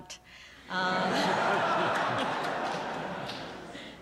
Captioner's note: laughter